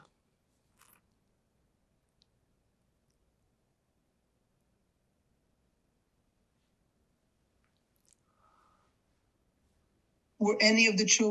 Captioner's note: pause 9 seconds